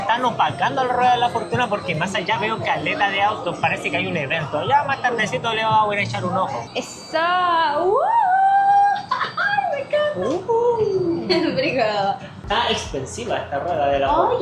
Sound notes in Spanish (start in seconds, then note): 8.0 grito; 11.7 risas